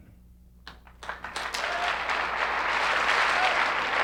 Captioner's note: applause